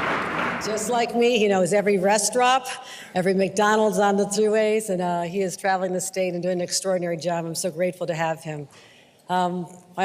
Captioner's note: applause